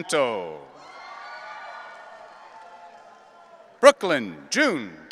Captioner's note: audience cheering